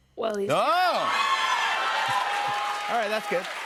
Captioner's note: cheers and applause